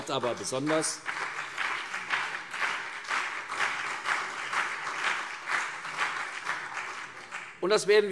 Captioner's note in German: Beifall CDU und BÜNDNIS 90/DIE GRÜNEN